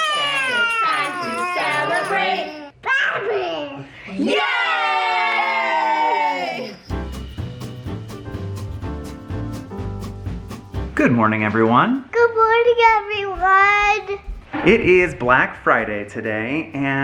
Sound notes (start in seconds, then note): 4.2 everyone in unison; 6.8 jaunty music